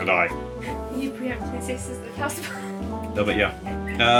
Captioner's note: mumbling and laughing